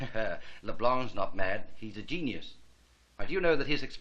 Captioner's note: chuckling